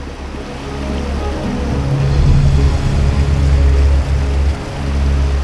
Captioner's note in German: Wasser rauscht über die Felsen